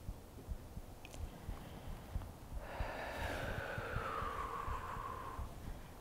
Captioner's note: inhaling and exhaling deeply